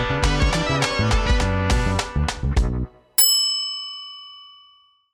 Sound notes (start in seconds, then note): 0.2 upbeat music; 3.2 bell dings